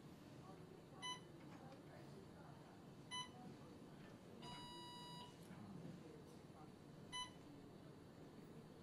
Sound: medical equipment beeping

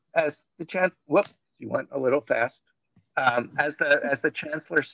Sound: speaks faintly

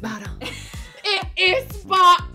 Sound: chuckles

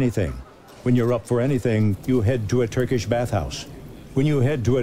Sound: neon buzzes

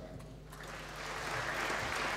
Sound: applause

